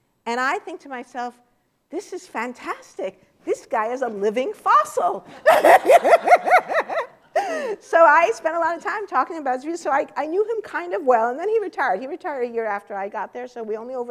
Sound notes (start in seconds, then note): 5.3 laughter